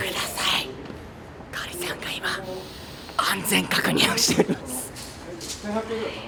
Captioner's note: loud whisper